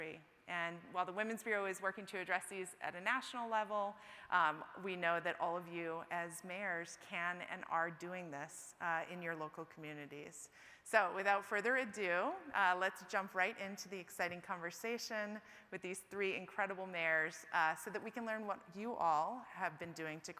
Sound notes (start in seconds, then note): none